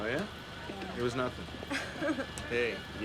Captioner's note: laughs